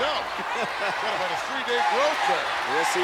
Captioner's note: laughs